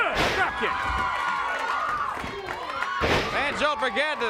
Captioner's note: crowd cheering